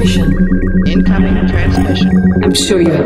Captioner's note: voiceover